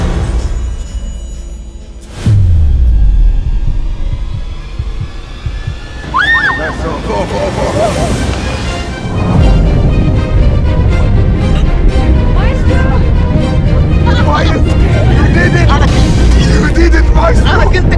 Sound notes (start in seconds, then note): 5.9 screaming